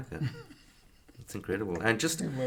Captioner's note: chuckles